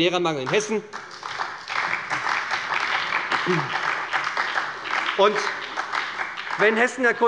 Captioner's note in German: Beifall bei der SPD